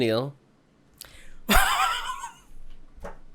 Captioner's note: burst of laughter